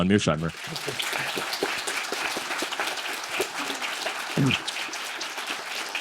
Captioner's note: applause